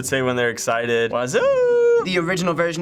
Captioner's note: excitedly